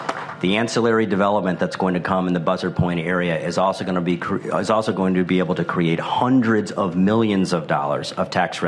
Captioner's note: applause